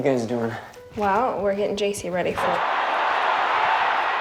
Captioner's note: static buzzing